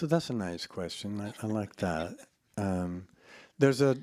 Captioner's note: laughs